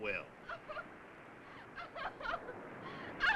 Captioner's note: Sue crying